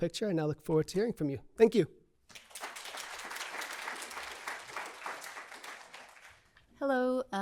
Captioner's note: applause